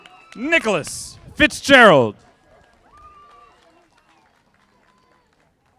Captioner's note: audience applauding; audience applauding